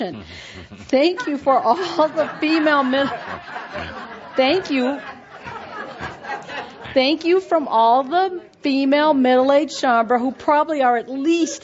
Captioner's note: lots of laughter